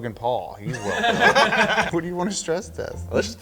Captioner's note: everyone laughing